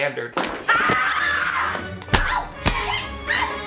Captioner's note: Viola screaming